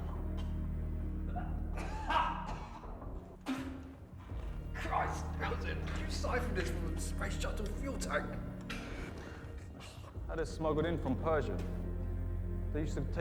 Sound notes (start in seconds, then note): 1.3 Igor coughing; 3.6 Igor spitting